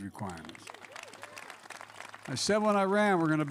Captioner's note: applause